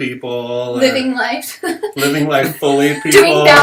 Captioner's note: laughter